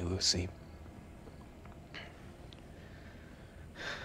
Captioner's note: crickets chirping; Ben sighs